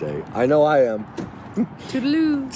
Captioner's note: laughs